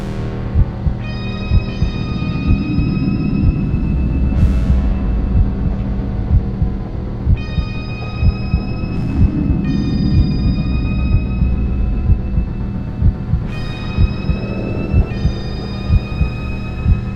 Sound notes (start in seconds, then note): 2.1 wind howls; 2.7 heartbeat thrums